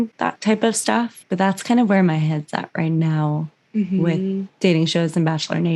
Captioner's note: mhmm